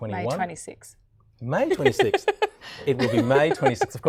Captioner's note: laughing